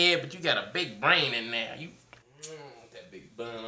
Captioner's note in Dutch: smooches kus